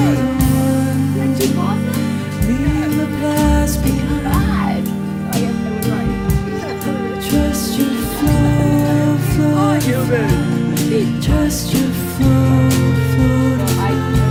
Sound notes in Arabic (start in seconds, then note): 10.5 الأحاديث غير الواضحة